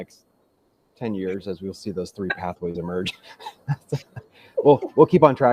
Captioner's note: laughs